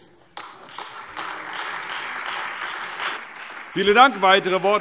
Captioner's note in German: Beifall Freie Demokraten, SPD, AfD und DIE LINKE